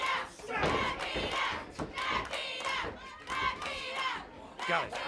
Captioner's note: audience chants